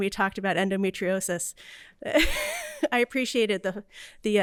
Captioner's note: laughter